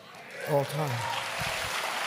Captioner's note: applause